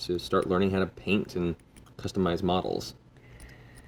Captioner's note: none